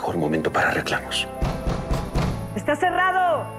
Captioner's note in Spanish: Golpes en la puerta